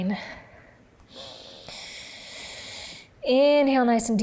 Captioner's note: inhales